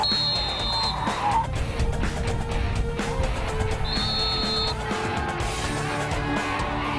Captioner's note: cheers